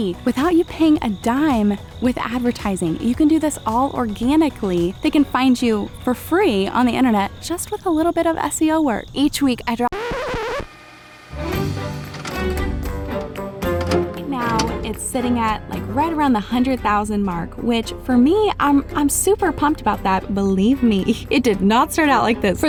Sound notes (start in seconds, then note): 9.8 record scratching; 12.0 soft music